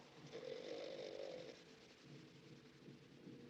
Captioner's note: snoring